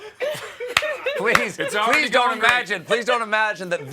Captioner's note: laughter